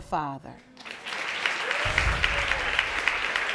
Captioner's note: audience applauding